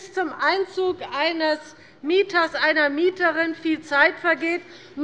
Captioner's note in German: none